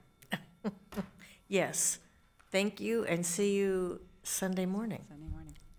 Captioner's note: chuckles